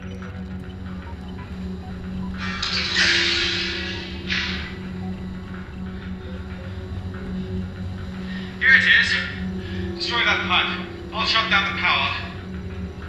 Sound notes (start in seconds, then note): 1.6 sound of doors opening and footsteps